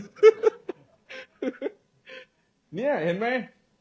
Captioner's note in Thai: เสียงหัวเราะ